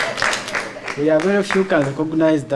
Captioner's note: laughing and applauding